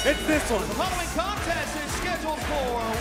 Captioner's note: bell ringing